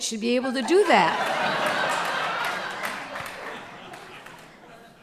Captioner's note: audience laughter